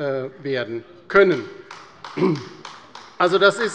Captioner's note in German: Beifall bei der LINKEN